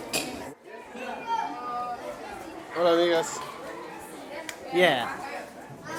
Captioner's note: speaking foreign language